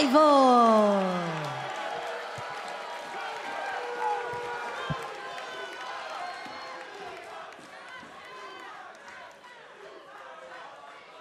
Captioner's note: cheers and applause